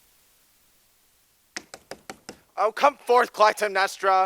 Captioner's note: knocking on wall